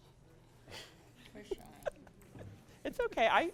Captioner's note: laughs